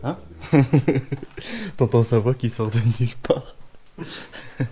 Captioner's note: laughs